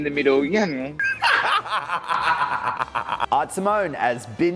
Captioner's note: laughs